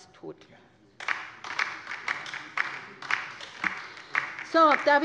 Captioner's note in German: Beifall bei der LINKEN